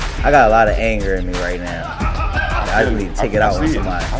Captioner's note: people chattering